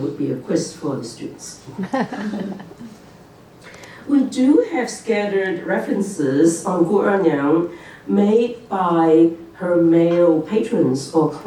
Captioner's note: laughter